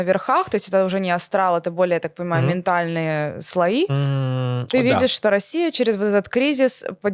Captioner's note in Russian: откашливается